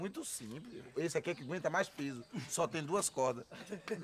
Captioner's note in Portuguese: risada